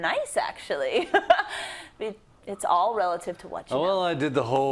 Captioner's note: laugh